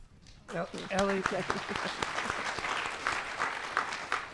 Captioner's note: applause